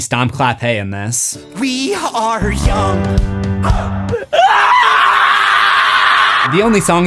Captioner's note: screaming